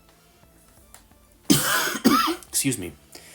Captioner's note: coughs